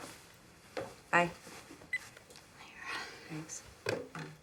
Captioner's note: beep